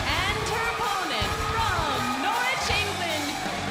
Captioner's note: crowd cheering